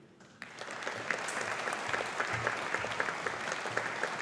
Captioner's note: audience applauding